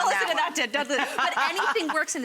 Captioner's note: Rachael laughing